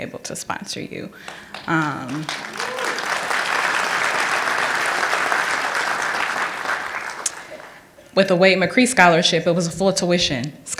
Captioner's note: applause